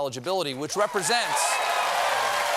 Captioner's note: applause